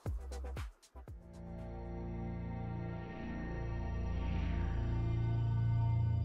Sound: logo whooshing; tense dramatic music

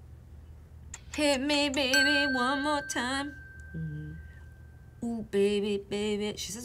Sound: bell dinging

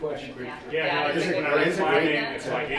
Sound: enthusiastic chattering

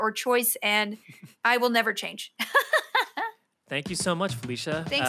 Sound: Felicia laughs

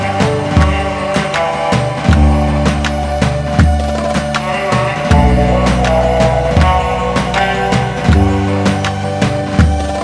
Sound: applause

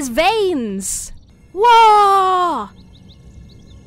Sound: shouts

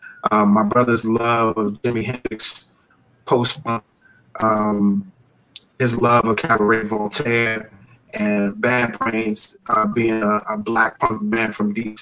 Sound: audio breaking up

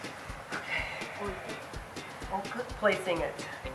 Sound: takes breath

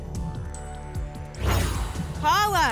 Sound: whoosh

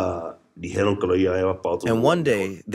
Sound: speaking Spanish; through translator

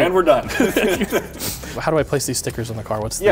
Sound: both laugh

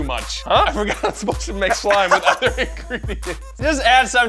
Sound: laughing

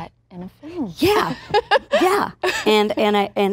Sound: laughing

